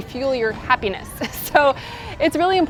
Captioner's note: laughs